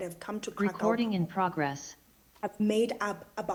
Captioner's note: computer Voice